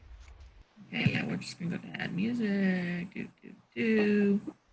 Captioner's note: murmuring